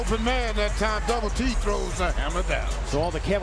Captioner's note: cheers and applause